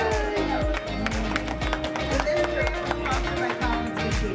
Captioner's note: applause; upbeat Music